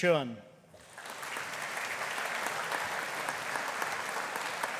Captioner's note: audience applauding